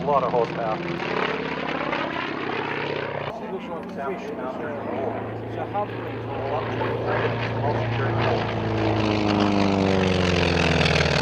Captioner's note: aircraft sounds